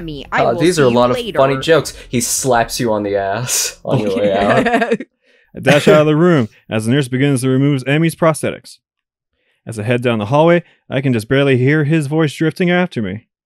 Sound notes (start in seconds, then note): 5.4 snorts; 5.6 chuckles